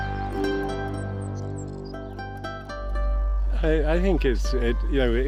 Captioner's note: birds chirping